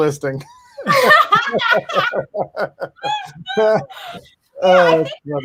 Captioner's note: panelists laugh